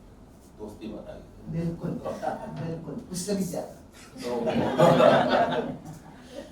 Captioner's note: laughs